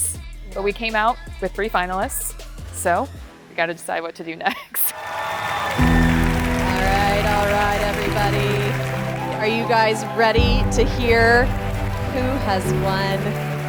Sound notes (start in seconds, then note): 4.9 crowd cheering